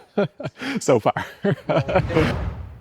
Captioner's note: laughing